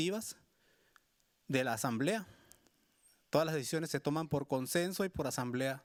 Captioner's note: speaking Spanish continues